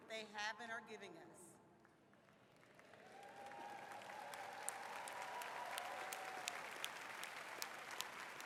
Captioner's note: applause